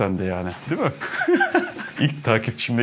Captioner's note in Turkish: Ahahahaha